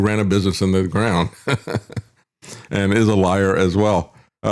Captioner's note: laughs